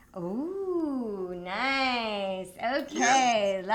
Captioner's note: none